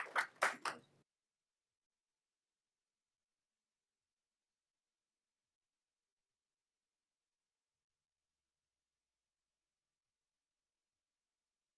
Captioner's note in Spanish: aplausos